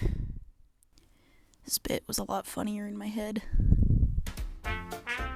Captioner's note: sigh